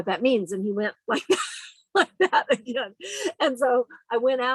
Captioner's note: laughs